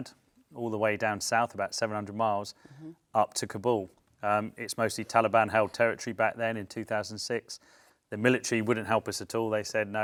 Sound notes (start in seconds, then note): none